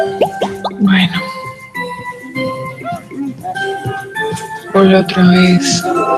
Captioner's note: woman speaking foreign language